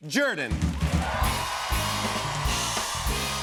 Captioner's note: cheers and applause